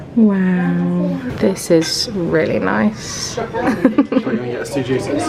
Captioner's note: laughing